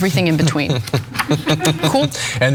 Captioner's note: laugh